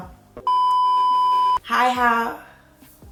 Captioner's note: tone beeps